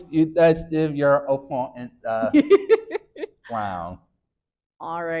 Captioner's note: laughing